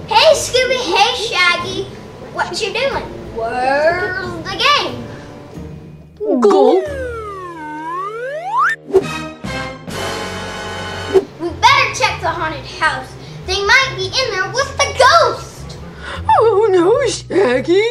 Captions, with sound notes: - Hey Scooby, hey Shaggy, whatcha doin'? Where's the gang? (both gulping) (dramatic music) We better check the haunted house, they might be in there with the ghost! - Oh no, Shaggy.